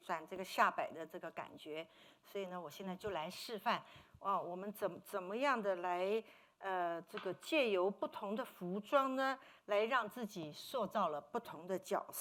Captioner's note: speaking Mandarin